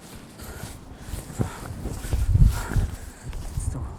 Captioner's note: Chris breathing heavily